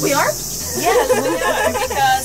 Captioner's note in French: rires